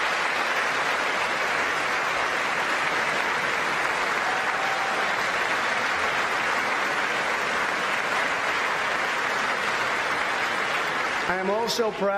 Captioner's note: applause